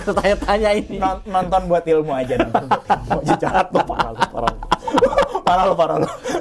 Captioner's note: laughs